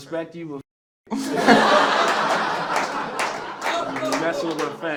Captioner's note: laughter